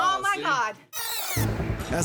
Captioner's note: tape rewinds